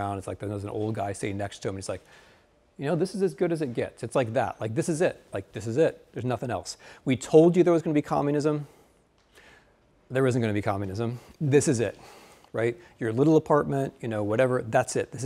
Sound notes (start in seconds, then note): none